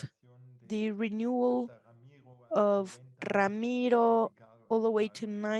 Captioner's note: speaks Spanish